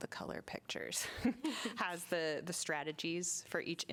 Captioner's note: laughter